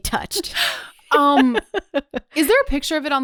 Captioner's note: laughs